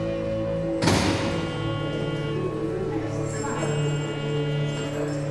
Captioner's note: door unlocking and opening